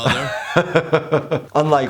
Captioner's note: laughs